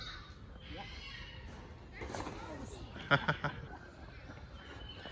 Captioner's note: laughs